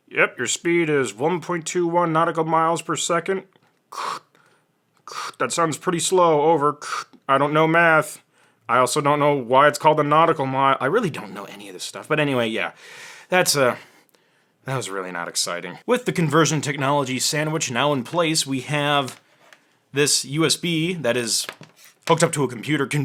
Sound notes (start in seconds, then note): 3.9 makes static noises